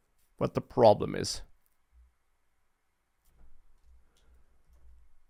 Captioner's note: keyboard clicking